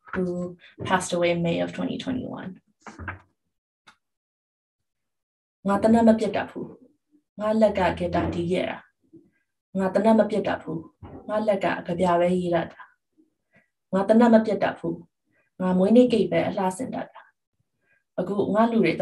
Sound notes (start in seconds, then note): 5.6 speaks in Burmese